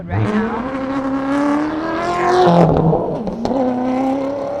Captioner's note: car engine revving